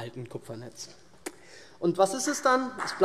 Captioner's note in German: Beifall SPD und DIE LINKE